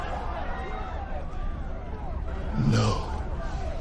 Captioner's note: crowd in fear